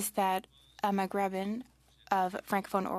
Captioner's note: speaking French